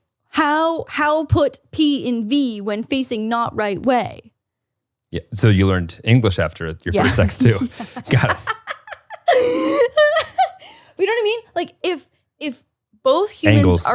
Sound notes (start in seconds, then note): 6.9 laughs